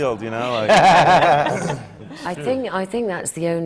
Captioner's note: laughs